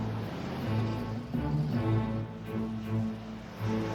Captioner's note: car engine roaring